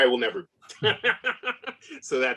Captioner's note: laughter